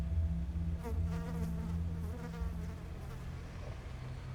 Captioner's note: fly buzzing